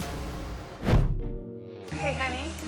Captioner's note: upbeat music; air whoosh; whimsical music